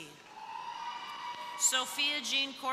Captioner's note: crowd cheering